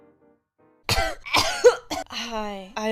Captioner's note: coughing